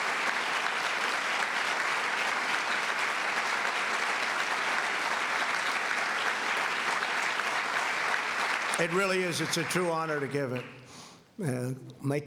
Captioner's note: applause